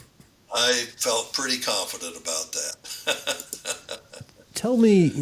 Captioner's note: laughs